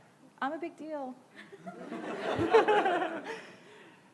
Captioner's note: laughing